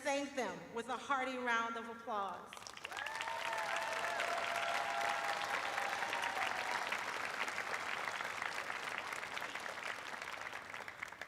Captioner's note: cheers and applause